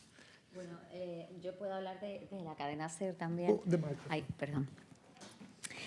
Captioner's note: speaking in Spanish